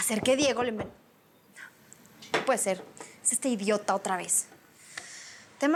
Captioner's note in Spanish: Toques en la puerta